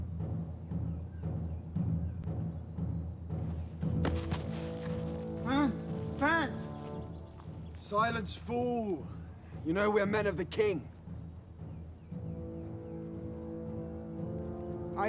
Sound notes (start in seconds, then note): 0.0 dramatic drumming music; 4.0 body thuds; 12.1 dramatic music continues